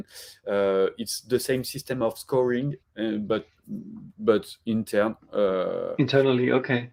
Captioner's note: speaks in French